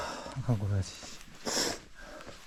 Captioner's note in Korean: 훌쩍